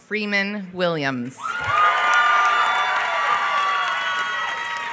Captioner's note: applause